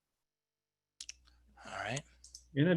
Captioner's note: clicking